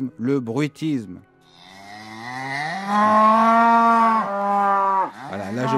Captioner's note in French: Meuh